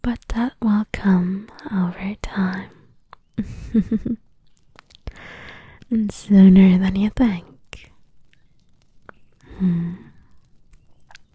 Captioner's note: chuckles